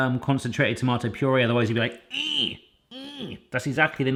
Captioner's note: struggling whimpers